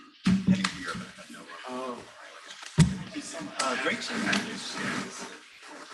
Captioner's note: people chattering indistinctly